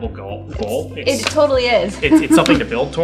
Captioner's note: laughs